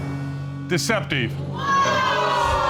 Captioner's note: audience exclaiming